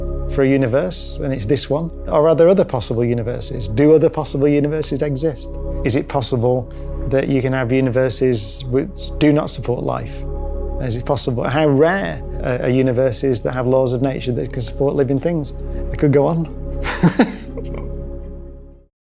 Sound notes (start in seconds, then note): 16.8 Brian laughs